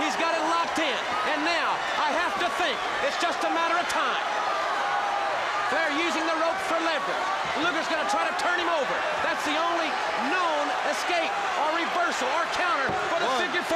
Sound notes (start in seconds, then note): 4.6 crowd cheering